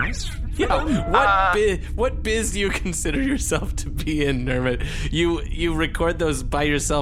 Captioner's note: laughing